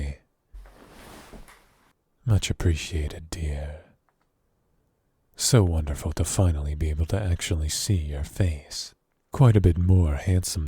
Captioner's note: bed noise